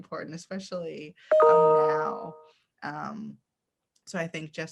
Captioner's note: computer notification bings